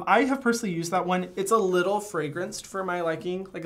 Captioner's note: none